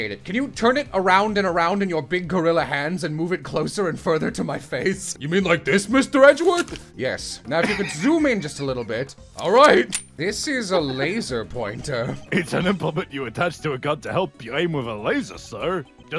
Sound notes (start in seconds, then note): 9.8 gun cocks